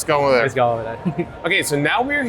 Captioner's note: chuckles